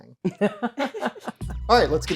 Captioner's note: laughing